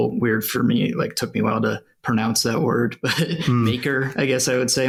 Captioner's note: laughs